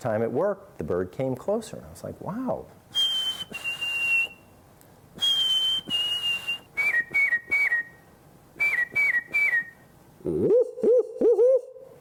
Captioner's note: whistles